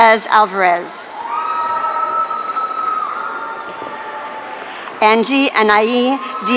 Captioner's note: audience cheering